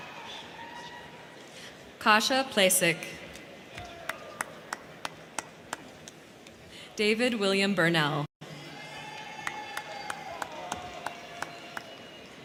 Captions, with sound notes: Kasha Placek. (crowd cheering) David William Burnell. (crowd cheering)